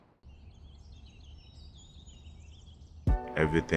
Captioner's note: birds chirping; R&B music